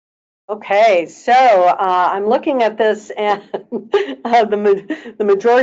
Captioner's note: laughing